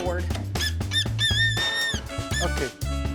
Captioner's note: creak